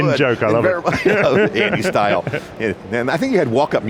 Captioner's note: laughs